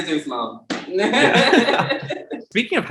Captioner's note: both laughing